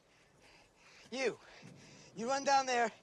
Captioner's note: breathing heavily